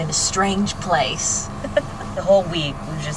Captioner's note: laughs